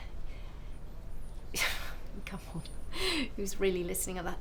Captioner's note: scoffs